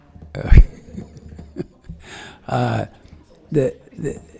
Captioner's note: laughing